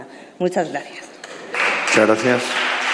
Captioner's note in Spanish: Aplausos